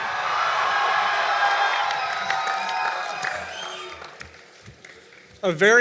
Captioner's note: cheering and Applause